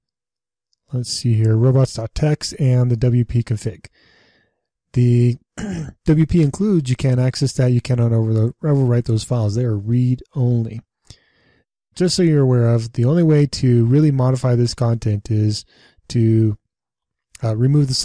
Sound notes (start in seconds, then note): 5.5 clear throat